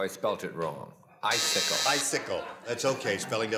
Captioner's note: buzzer